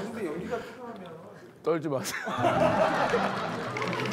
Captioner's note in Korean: 웃음소리